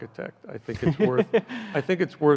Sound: laughs loudly

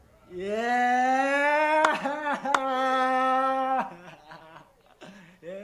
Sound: laughs

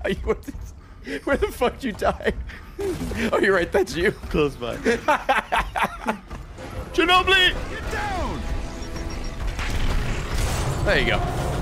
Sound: laughs

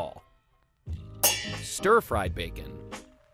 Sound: pans clanging

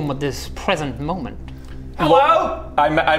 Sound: none

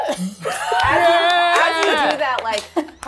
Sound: participants laughing

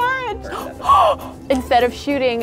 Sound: gasps

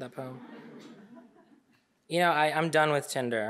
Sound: audience laughing

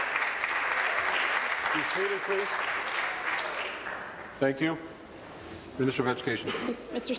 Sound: applause

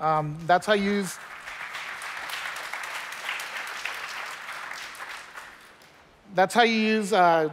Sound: applause

